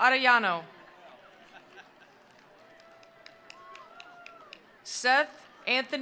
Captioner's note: attendees cheering; attendees applauding